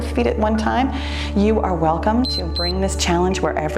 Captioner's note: timer beeps